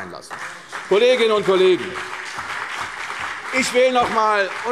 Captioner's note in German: Beifall CDU und BÜNDNIS 90/DIE GRÜNEN